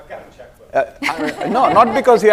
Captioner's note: laughter